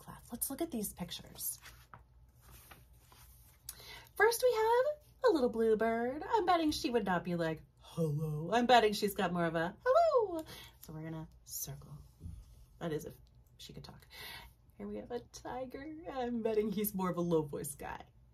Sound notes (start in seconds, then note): 7.7 low voice; 9.8 high voice